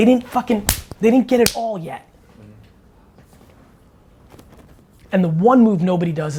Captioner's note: fist smack